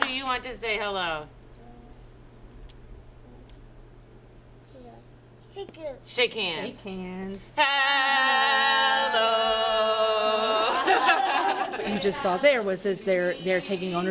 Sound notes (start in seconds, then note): 8.2 laughing